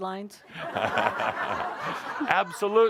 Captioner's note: laughter